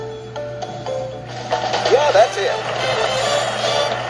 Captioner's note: pat